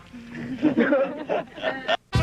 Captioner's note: crowd chuckles